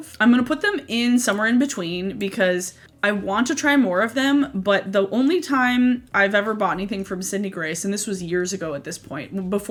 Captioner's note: none